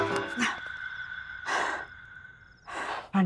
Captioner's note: Exhales sharply